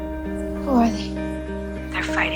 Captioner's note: voiceover